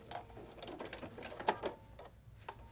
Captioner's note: machine Whirring